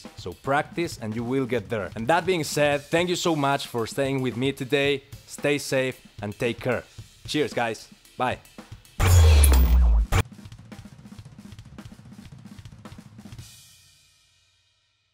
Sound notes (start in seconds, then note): 9.0 transition zaps; 9.1 soft intense music